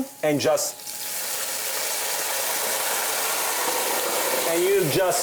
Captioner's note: wine sizzling in pot